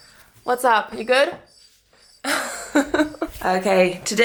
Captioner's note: laughs